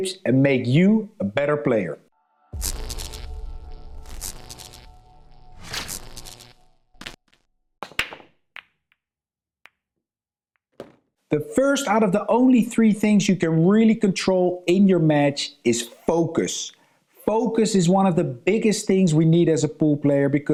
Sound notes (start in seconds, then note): 2.4 electric music; 7.6 billiard clacking